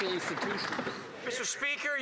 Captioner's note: applause